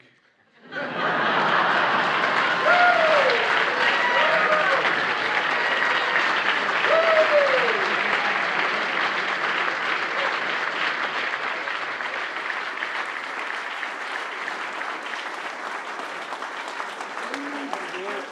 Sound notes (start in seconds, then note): 0.4 laughter; 2.4 applause